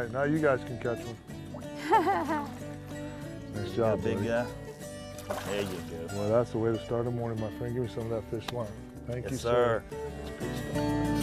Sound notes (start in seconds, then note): 1.8 laughter